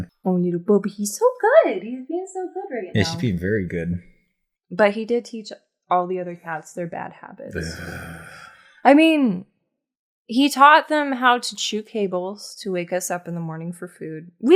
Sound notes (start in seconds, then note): 7.5 why'd-you-have-to-remind-me sigh